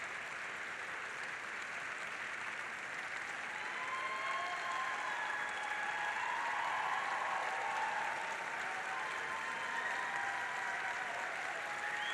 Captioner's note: applause